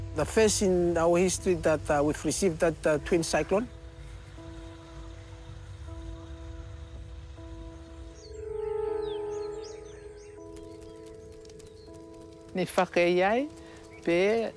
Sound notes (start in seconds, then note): 4.5 ambient music; 9.7 fire crackles